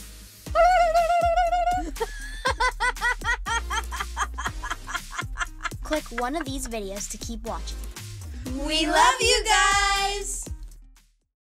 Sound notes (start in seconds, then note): 2.4 laughter